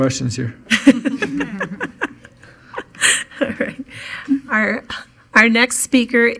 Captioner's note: chuckling